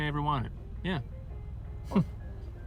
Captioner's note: chuckles